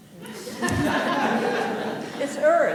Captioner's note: audience laughing